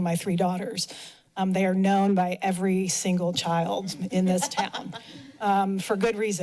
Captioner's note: laughter